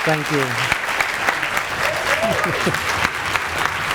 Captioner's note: audience clapping